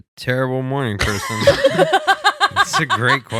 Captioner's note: laughing